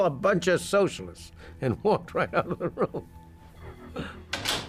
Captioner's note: chuckling